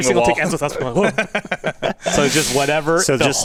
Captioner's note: laugh